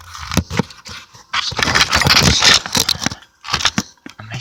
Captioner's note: scratchy improvised phone mount noises